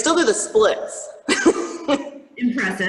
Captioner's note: laughs